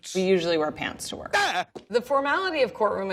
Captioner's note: Lionel yelps